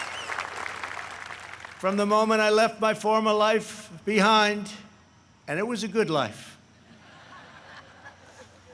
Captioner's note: applause